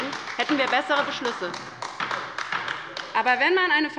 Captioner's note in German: Beifall bei der LINKEN